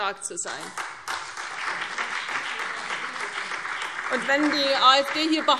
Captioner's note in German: Beifall CDU und BÜNDNIS 90/DIE GRÜNEN - Zuruf AfD